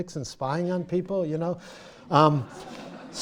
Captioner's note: laughter